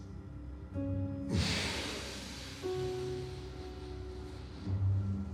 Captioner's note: Bjorn inhales deeply